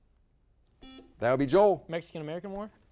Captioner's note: buzzer beeps